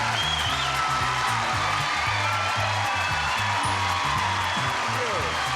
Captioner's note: cheering intensifies